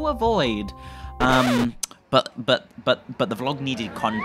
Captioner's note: record scratch